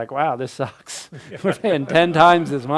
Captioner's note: crowd laughs